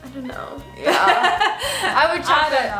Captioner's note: laughs